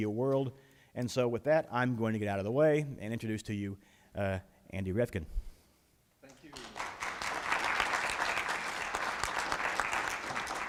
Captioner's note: applause